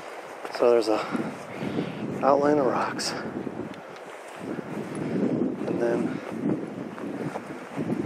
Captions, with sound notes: So there's a outline of rocks (wind whooshing) And then